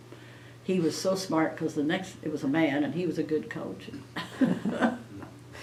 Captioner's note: laughter